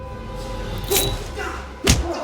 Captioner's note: knife slashing